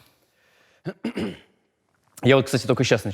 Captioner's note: Anton clears throat